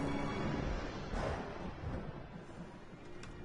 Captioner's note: thunder crackles